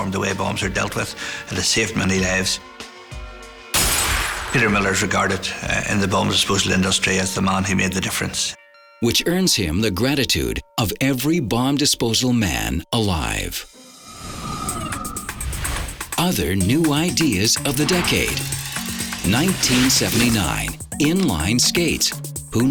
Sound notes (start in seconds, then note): 3.7 glass shatters; 15.1 upbeat music